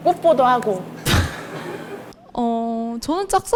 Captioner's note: laughing